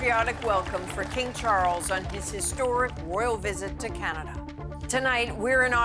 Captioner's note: applause